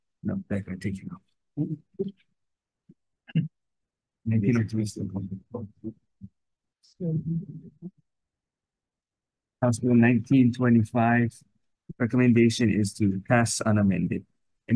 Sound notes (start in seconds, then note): 5.9 members chattering